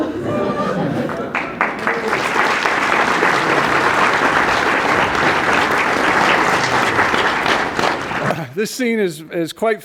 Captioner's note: laughter; applause